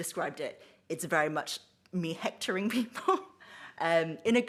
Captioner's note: she laughs